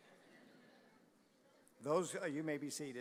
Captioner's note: audience laughing